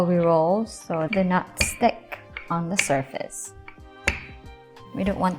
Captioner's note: pin clanking